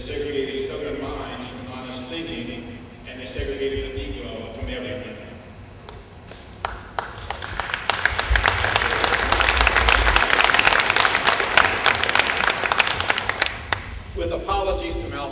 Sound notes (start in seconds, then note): 6.6 applause